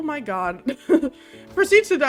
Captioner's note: giggles